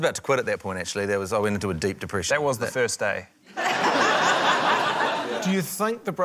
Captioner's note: laughter